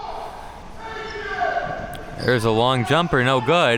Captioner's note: spectators shouting